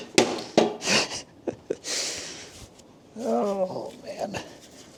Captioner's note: laughs